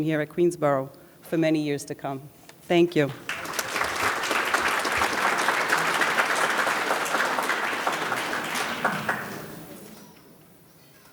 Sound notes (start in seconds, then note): 3.2 audience applauds